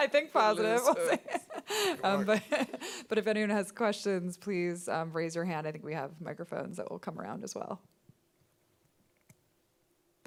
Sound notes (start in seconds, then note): 0.8 laughing; 2.0 mumbling